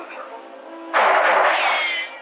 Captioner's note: gunshot